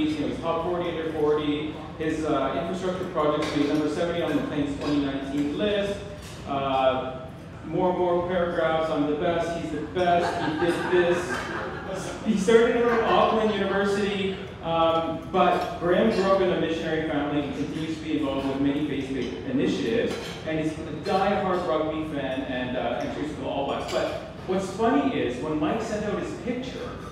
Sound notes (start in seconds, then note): 10.1 laughs